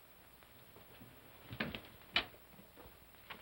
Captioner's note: door opens